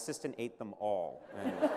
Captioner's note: laughter